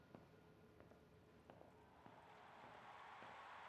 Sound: footsteps tapping; crowd cheering

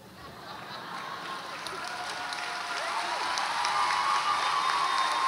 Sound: audience applauds and cheers

